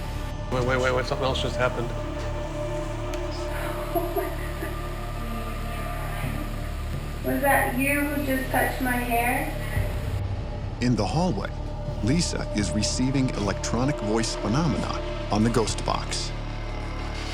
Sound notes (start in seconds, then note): 3.1 laughs; 10.5 voiceover